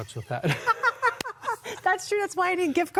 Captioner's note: hearty chuckle